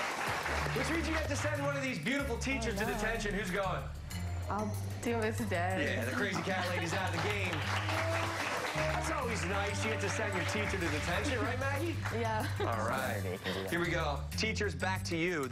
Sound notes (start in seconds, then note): 11.9 applause